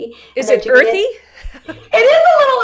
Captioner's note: laughs